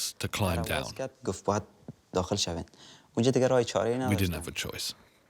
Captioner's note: Dari spoken audio